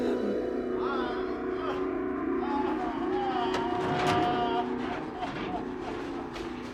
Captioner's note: groaning continues